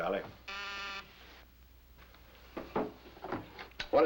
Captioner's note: buzzing